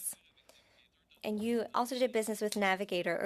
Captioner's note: speaking French